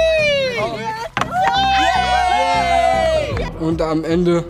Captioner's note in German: Alle jubeln